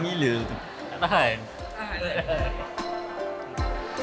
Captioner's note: laugh